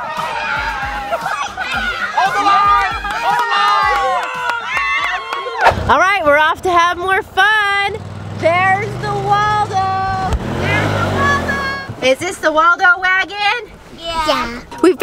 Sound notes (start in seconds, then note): 3.6 cheering